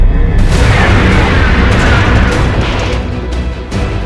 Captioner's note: torpedo rushing